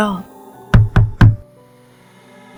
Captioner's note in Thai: เสียงเคาะประตู